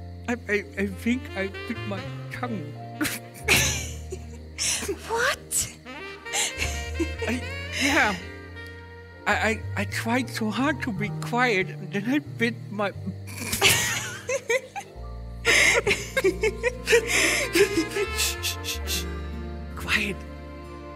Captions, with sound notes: I er I think I bit my tongue. What?! I... Yeah I - I tried so hard to be quiet that I bit my... [giggling] Shhhh! Quiet!